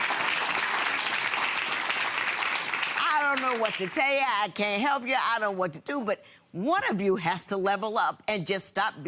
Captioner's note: audience applauding